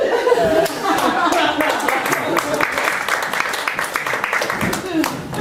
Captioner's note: audience applauding